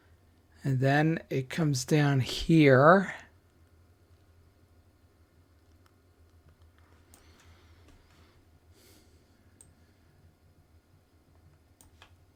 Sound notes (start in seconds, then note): 4.3 silence